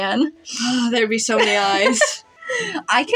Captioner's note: sigh; laugh